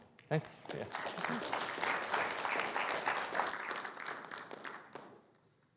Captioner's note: audience applauding